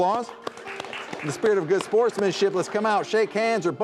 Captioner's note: crowd clapping; light instrumental music